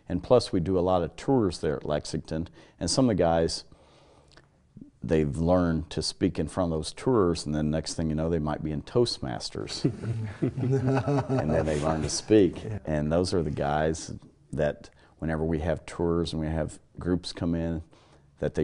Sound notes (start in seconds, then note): 9.8 laugh